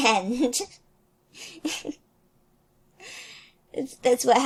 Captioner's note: laughs